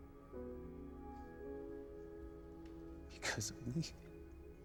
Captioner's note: sobs